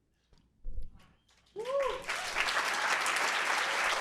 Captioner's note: cheers and applause